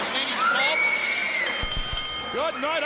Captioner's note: bell rings